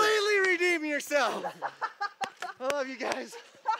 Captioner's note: laughs